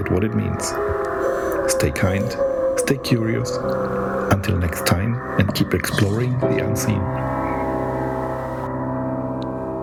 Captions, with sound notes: [laughs] Stay curious, until next time and keep exploring the unseen.